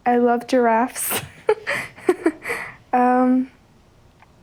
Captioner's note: laughs